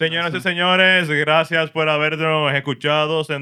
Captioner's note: speaking Spanish